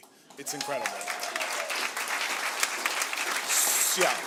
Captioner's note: cheering and applause